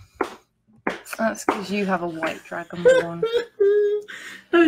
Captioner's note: laugh; silly laugh